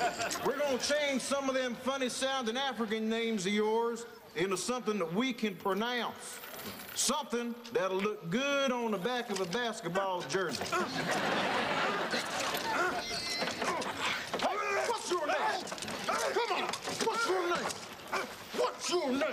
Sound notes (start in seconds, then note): 12.5 grunting